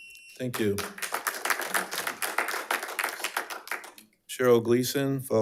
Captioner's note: attendees applauding